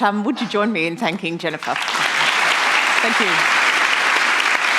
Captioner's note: applause